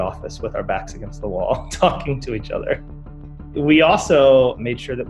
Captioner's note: laugh